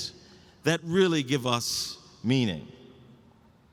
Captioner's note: none